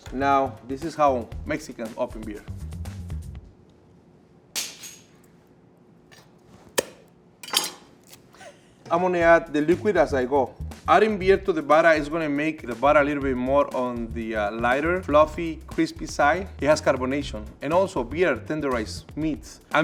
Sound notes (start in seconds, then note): 4.3 can opener clops; 6.8 laughs; 7.4 bottle top pops